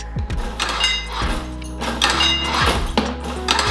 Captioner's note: press clanking